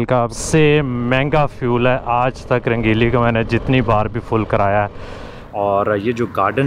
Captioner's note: motorcycle